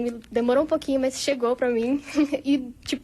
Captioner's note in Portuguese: risadas